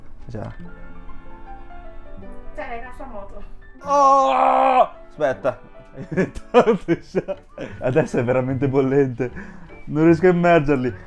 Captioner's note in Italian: risate